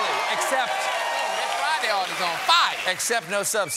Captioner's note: cheers and applause